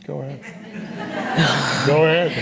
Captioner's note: audience laughing